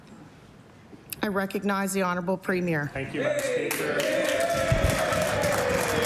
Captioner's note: applause